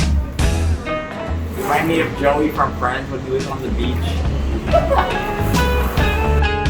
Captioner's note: laughs